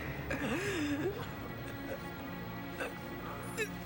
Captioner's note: Nancy exhales; dramatic music